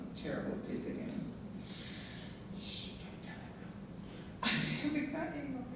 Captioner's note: whispers; laughing